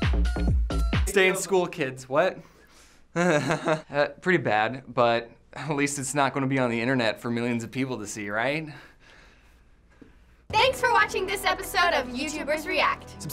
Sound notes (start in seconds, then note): 3.1 chuckles